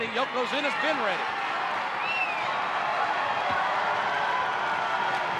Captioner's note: audience cheers